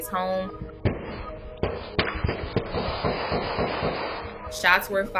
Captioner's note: gunshots